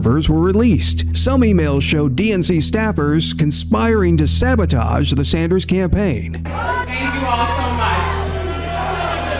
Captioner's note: booing